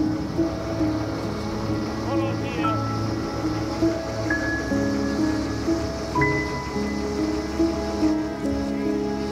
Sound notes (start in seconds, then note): 2.0 crew murmurs; 2.3 gentle music